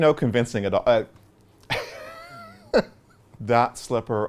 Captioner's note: laughs